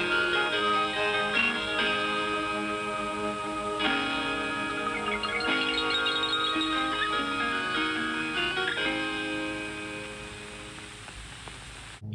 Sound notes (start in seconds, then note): 0.0 guitar music playing; 0.0 chimes